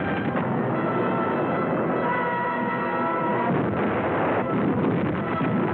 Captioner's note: war sounds